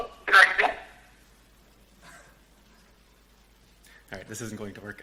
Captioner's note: phone breaks up